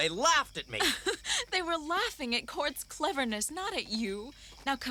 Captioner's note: laughs